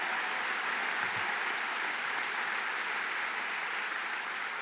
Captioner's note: applause